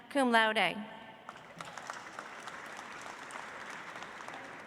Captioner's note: audience applauds